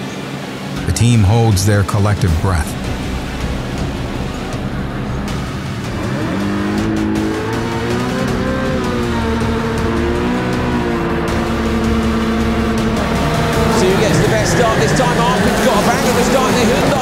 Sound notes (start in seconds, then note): 6.3 engines revving; 15.3 car engines drown out commentator